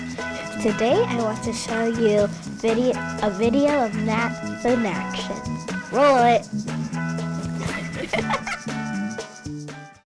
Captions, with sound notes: Today I want to show you vide-- a video of math in action. Roll it. [ laughs ]